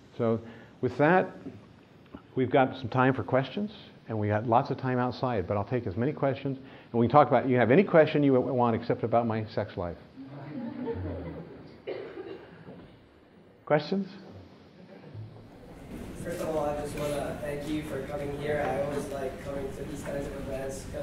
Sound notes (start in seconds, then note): 10.4 laughter